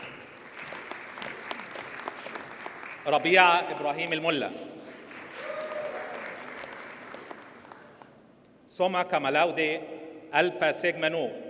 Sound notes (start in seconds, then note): 0.0 audience applauds; 4.9 audience cheers and applauds